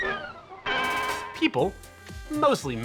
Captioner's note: spit squelches; bell clangs